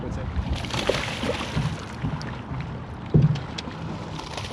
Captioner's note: fish splashing